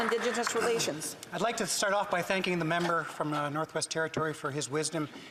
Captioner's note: some Applause